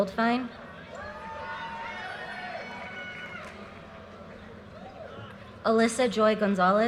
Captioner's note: audience cheers and applause